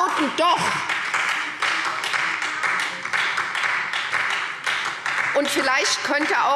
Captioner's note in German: Beifall SPD und vereinzelt DIE LINKE – Unruhe